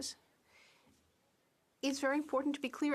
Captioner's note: speaking French